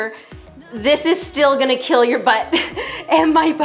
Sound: laughing

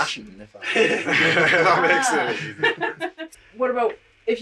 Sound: laughs

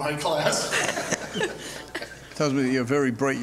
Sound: laughs

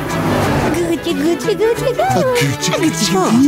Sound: baby talking

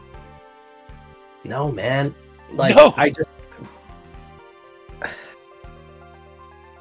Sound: sigh

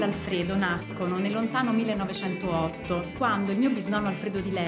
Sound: speaking Italian

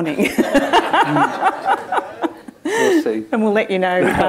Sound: laughter

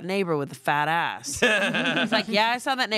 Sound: everyone laughs

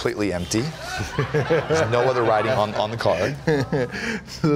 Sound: laughter

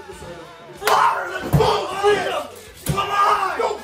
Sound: yelling

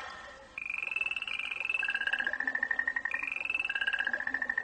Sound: water cascading; nightingales continue tweeting

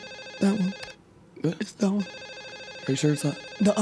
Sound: phone rings

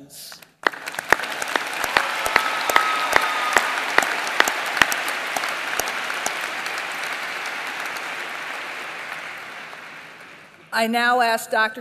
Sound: applause

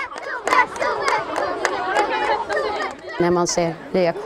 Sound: girls chanting

